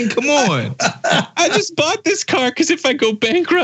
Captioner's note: laugh